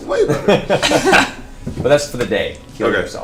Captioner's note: all laugh